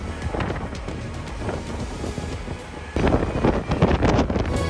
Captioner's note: wind blowing